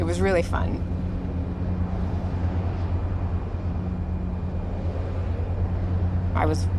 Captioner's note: rumble of engine